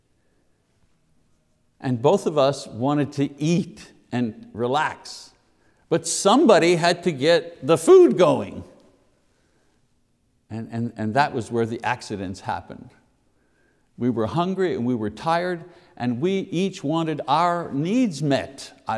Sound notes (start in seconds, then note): none